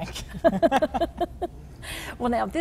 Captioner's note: giggling